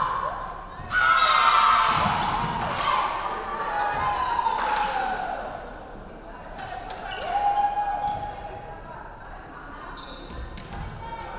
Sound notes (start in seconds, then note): 1.0 crowd cheering; 1.7 referee whistling